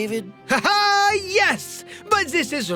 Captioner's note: laughes